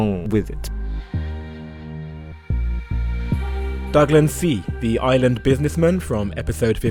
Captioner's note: voiceover